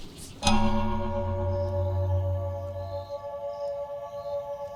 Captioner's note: A clock chimes as music begins